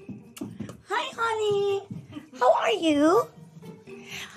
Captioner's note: in high-pitched voice